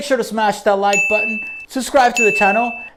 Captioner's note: bell rings